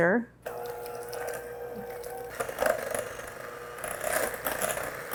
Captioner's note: mixer whirring